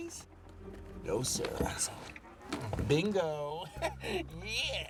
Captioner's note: chuckles